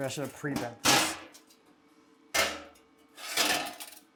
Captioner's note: metal clanking